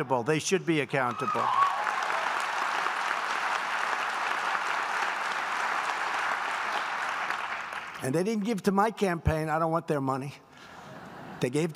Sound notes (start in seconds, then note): 1.2 applause; 10.4 laughter